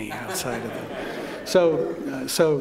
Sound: laughter

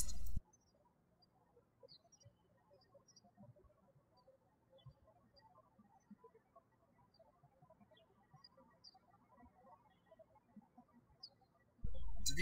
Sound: birds chirping

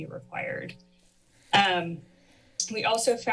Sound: pause

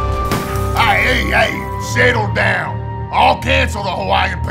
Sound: nefarious music; Bens crashing and smashing

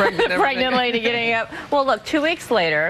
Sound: laughs

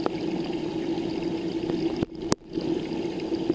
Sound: underwater gurgling

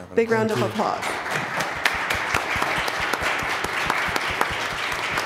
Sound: applause

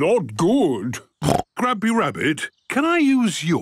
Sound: snorts

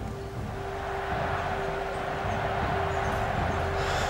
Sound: crowd cheering

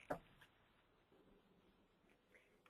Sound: silence

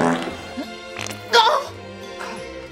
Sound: audience laughs; dee farts

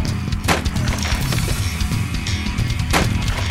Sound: fighting sound effects; wood cracking

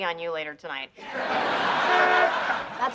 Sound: horn honks

